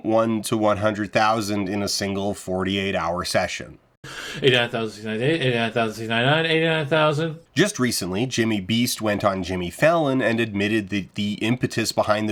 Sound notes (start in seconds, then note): 4.2 Jimmy counting in a barely coherent slur